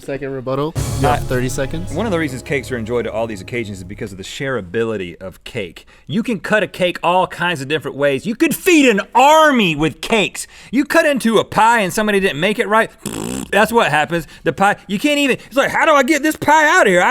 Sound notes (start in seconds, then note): 13.0 spitting